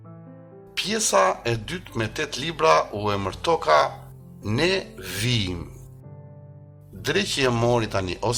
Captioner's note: in Albanian